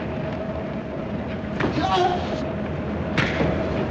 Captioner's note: groans